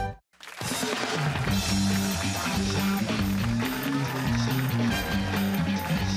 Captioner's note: cheers and applause